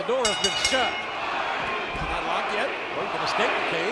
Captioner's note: bell rings